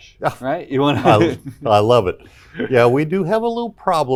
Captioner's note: chuckles